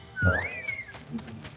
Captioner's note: whistling